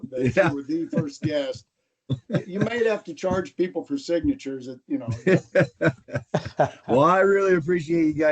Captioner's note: laughter